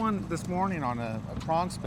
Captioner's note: boat engine idling